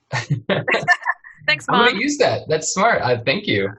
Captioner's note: laughs